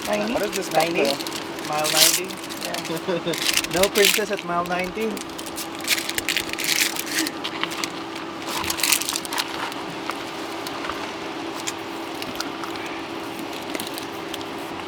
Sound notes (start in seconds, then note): 0.0 overlapping chatter; 3.3 giggles; 5.7 loud clatters